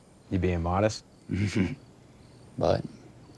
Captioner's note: Tyler chuckles